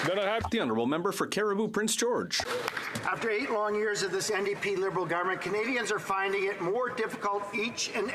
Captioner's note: applause